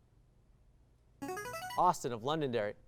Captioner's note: high-pitched tones